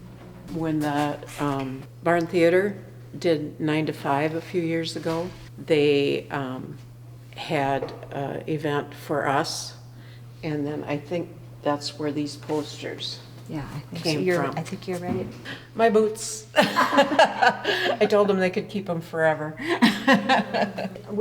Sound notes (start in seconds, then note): 16.5 laughs; 19.6 laughs